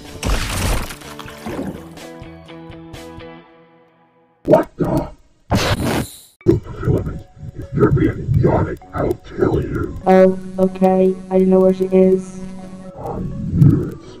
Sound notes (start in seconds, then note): 5.5 blows